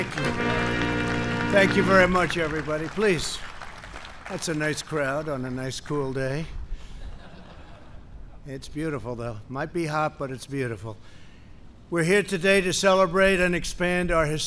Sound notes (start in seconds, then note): 0.0 applause; 6.9 laughter